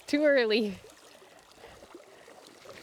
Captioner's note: water splashing